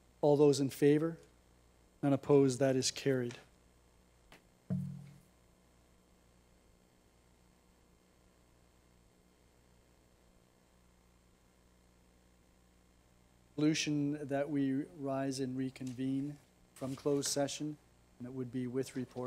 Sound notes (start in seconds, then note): 7.6 silence